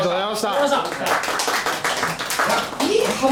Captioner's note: all applauding